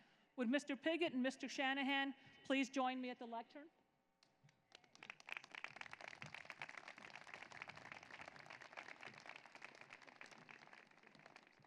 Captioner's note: applause